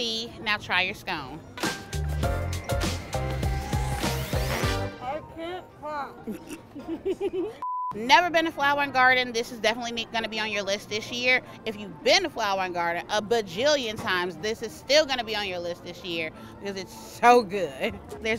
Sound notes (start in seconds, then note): 1.4 upbeat music; 6.2 laughs